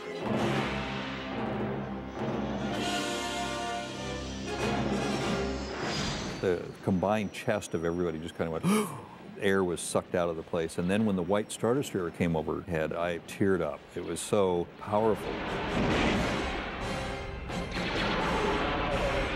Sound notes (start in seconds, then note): 8.6 gasps